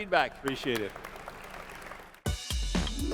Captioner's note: applause